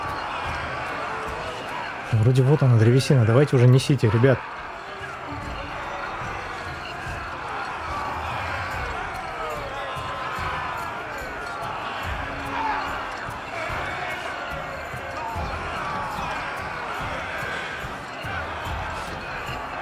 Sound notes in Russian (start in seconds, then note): 0.0 ликование; 9.7 ликование; 11.4 крик